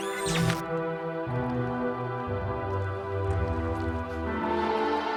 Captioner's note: Kellogg's neck whirring